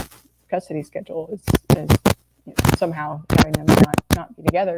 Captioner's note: audio static drowns out speaker